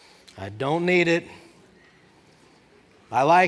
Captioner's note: congregation talking